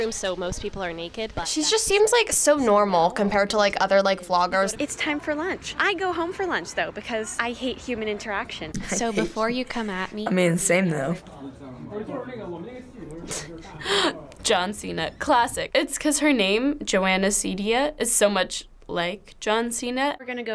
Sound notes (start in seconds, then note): 13.4 laughs